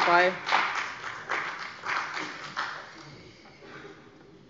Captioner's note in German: Beifall bei dem BÜNDNIS 90/DIE GRÜNEN und der CDU